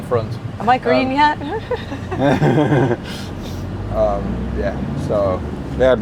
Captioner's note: laughing